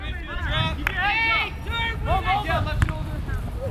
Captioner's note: players shouting